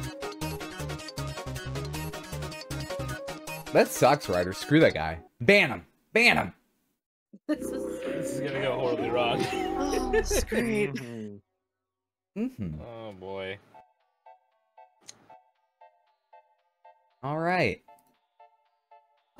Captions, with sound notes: - That sucks, Ryder, screw that guy. - Ban him, ban him. (laughing) - This is gonna go horribly wrong. (laughing) - Oh, sweet. - Oh boy. (upbeat music) - All right.